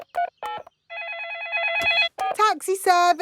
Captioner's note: dialing; phone ringing